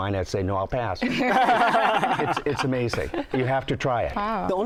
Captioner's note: laughter